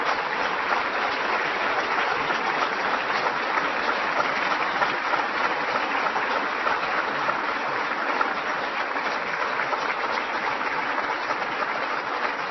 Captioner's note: applause